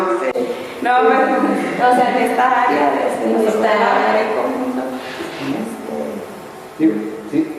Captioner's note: laughs